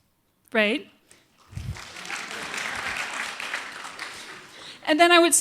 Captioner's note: applause